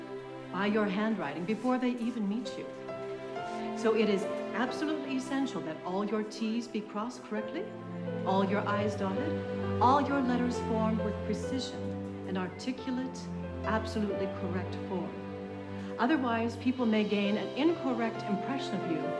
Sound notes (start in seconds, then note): none